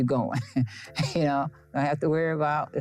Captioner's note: Jackie chuckles